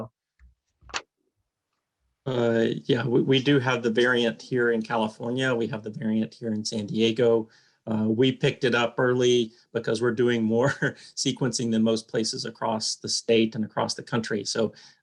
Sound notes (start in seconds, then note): 10.6 laughter